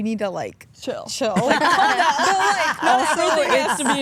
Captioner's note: Stephanie laughs